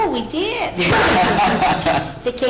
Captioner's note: laughter